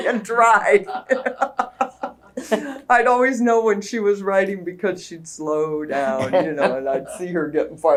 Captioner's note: laughter